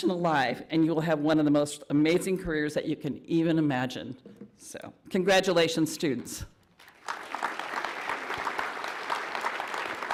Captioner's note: applause